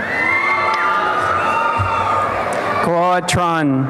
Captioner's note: applause and cheering